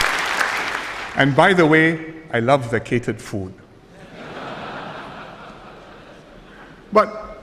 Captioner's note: applause; audience laughter